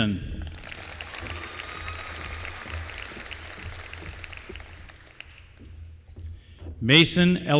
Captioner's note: applause